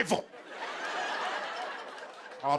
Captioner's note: laughter